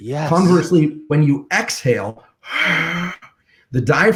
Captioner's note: exhales